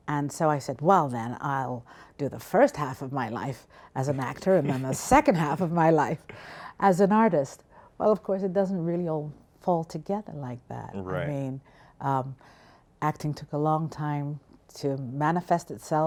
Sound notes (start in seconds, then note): 4.0 laughs